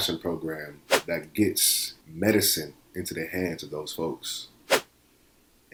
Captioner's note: whoosh; whoosh